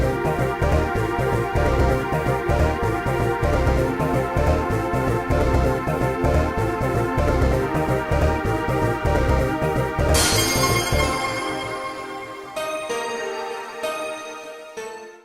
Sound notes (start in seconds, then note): 10.0 pulsating